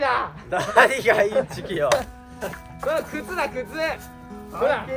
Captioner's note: laughs